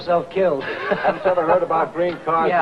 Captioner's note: happy laughing